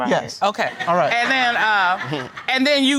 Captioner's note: audience laughs